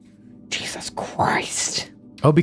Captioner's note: soft growl